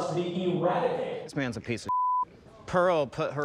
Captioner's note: beep